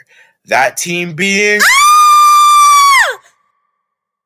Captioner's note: Brooklyn screams for dear life